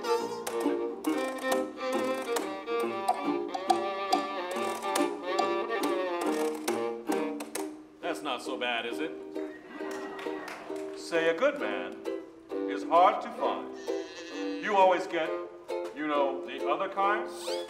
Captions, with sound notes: That's not so bad, is it? (audience cheering and applauding) Say a good man is hard to find. You always get, you know, the other kind.